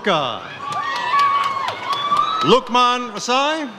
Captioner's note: audience cheers